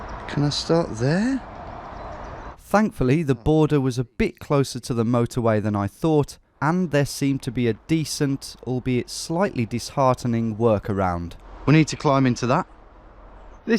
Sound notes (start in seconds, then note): none